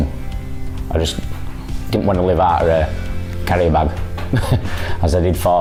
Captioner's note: laughs